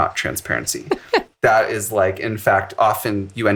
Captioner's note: laughs